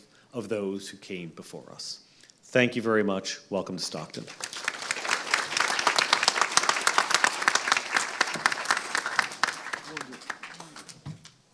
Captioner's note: applause